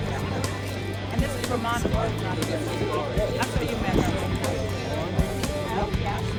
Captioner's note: indistinct crowd chatter continues